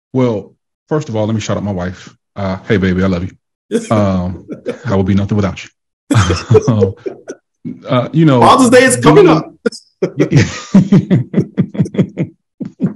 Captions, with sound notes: - Well, first of all, lemme shout up my wife. Hey baby, I love you. - I will be nothing without you. (all laugh) You know- - Father's Day is coming up. (all laughing)